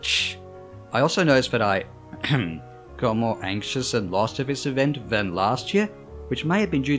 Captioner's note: ahem